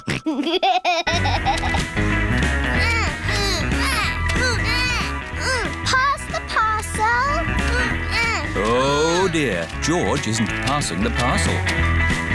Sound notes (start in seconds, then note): 0.0 snorts and laughs; 2.7 both grunting